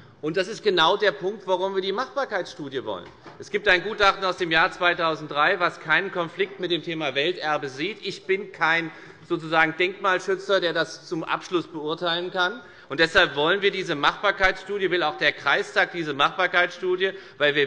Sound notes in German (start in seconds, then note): none